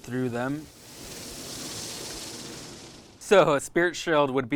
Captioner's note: moths fluttering